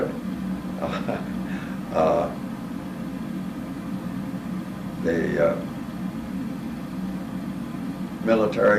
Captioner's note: laugh